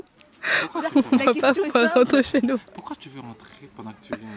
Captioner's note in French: Rires